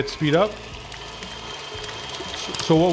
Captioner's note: mixer whirring